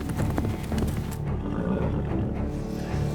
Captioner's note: hoofbeats; horse blusters